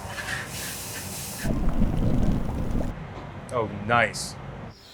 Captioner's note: flames whoosh; food sizzles; mixture bubbles